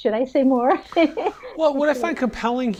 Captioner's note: laughs